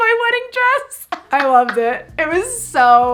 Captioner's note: laughs